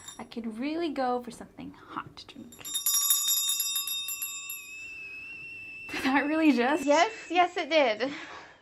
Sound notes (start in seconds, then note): 2.5 bell ringing; 4.5 kettle whistles